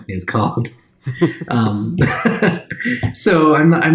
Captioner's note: chuckles